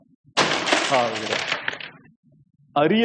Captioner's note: glass shatters